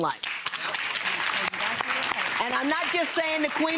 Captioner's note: audience applause